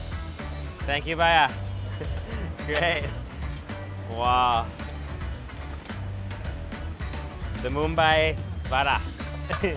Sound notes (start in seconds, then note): 1.8 laughs; 9.4 laughs